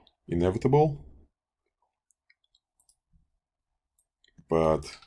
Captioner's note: clicking Sounds